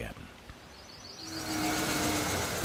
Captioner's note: loud driving noise